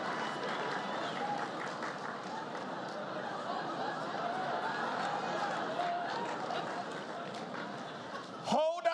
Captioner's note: laughter